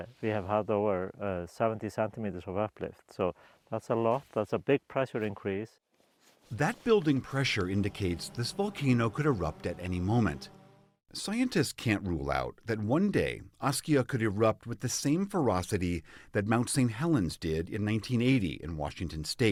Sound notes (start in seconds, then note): 7.0 voice-over